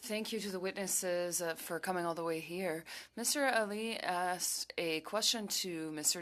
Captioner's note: speaking French